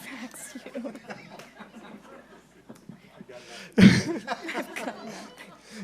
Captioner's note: laughing